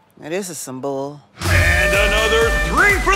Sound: horn sounds

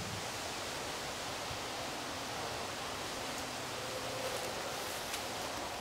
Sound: wind

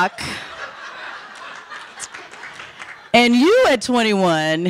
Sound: audience laughing

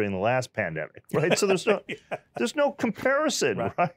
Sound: laughs

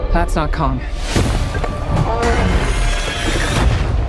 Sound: clanging; Kong groans

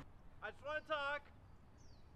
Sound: shouting

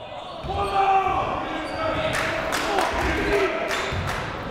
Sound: shouting

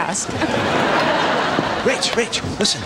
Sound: audience laughing

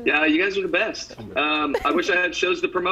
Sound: laughter

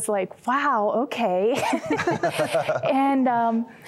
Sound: laughter

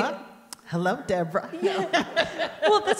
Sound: laughs

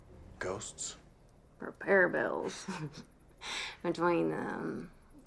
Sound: laughs

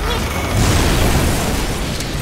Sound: explosion

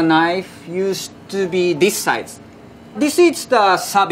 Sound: text chiming

